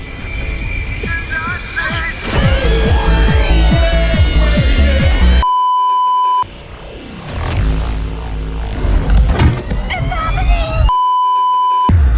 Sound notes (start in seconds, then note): 2.3 screams in pain; 6.4 portal noises; 10.8 beeeeeep